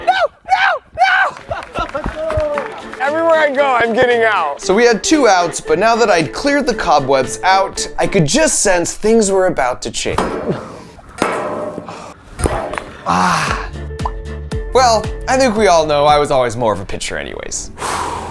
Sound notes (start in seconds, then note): 2.3 people cheering; 13.0 person sighing